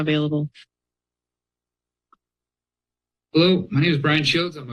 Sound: silence

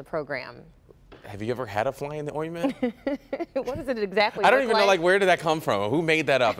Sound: laughter

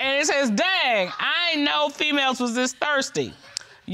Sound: reading

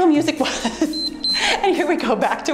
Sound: timer beeps

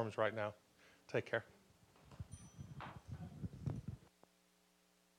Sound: bell dinging

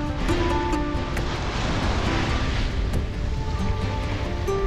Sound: waves crashing

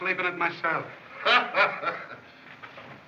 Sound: laughs

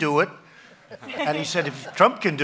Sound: laughter

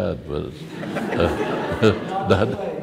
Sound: laughs

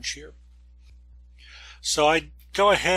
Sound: breath

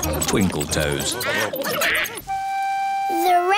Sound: duck quacking

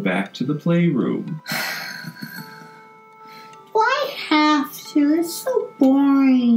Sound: long sigh

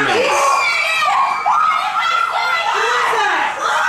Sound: screaming

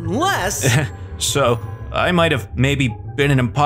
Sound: chuckles

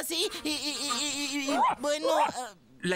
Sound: angry Barking

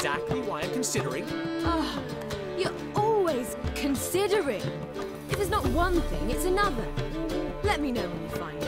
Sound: frustated sigh

